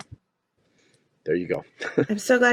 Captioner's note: laughing